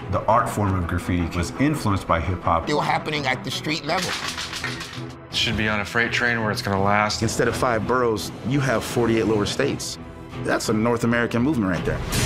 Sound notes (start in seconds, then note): 3.9 cans clacking